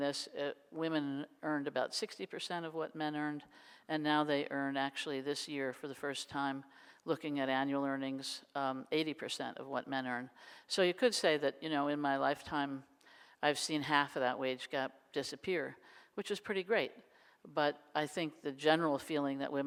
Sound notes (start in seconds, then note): none